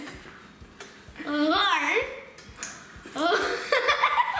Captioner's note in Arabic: يضحك